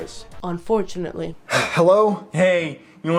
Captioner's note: sigh